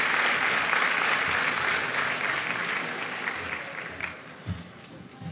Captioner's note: applause